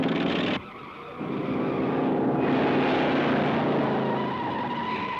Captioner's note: tires squealing; engine revving